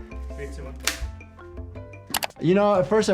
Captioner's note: rubber band snaps